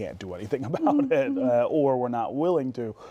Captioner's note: laughs